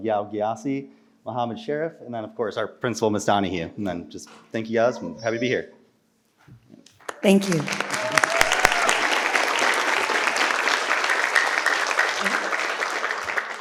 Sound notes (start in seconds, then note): 8.6 participants clap